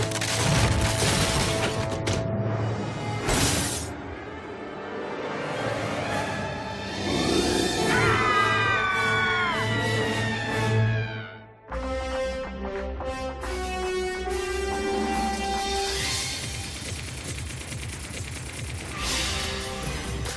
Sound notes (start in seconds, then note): 0.1 door splintering; 7.4 growling; 7.8 both screaming